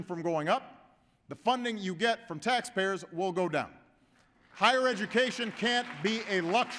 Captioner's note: applause